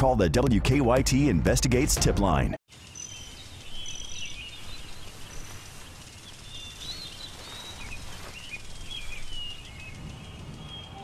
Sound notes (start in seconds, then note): 4.2 sounds of birds whistling